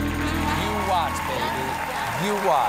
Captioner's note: applause